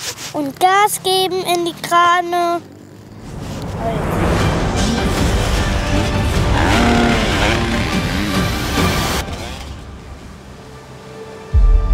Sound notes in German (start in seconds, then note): 6.2 Motordröhnen